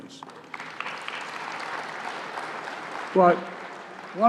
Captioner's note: applause